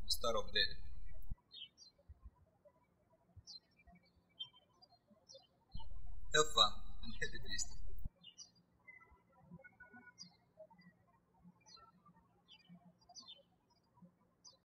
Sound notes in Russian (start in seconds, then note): 2.7 птички щебечут; 9.3 птички щебечут